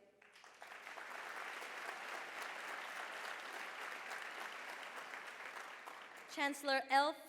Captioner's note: applause